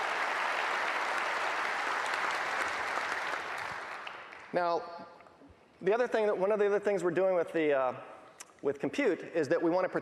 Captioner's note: applause